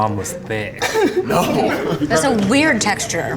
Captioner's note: guys laughing